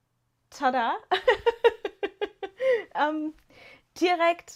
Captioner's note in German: gelächter